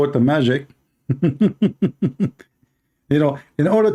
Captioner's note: Ketawa